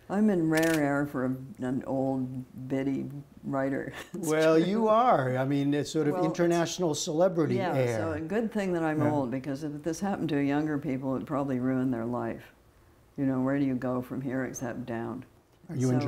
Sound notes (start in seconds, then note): 3.9 chuckling